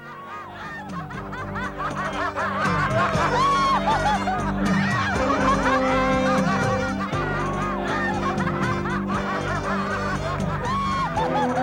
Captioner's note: sounds of merrymaking